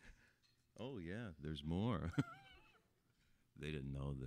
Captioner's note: laughing